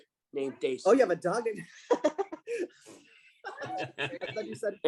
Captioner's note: laughter